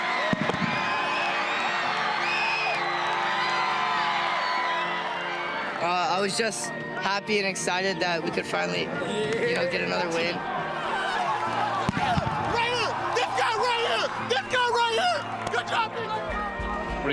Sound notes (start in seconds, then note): 0.0 crowd cheering; 10.0 cheering